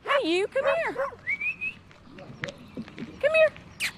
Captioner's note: whistles